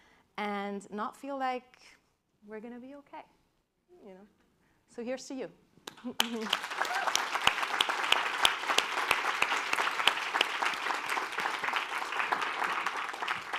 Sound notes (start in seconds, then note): 5.8 applause